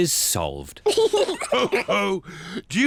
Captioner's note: all laugh